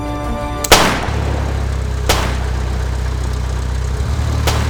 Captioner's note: guns blasting